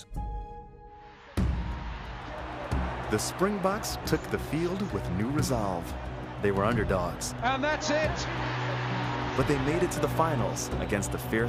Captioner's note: cheering